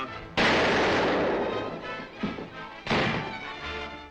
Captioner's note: explosion blasts; door clatters